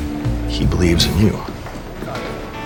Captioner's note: voiceover